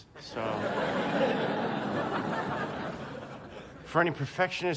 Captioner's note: laughing